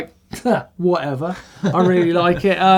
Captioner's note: scoffs